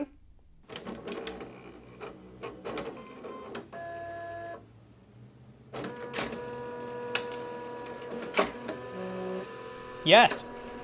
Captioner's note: printer Noises